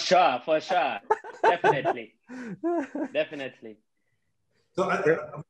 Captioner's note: all laughing